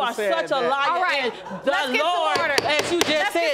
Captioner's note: gavel pounding